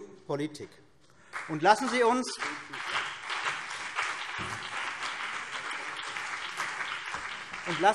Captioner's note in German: Beifall CDU und BÜNDNIS 90/DIE GRÜNEN